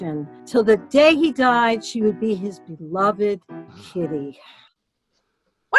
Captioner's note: sweetly; harshly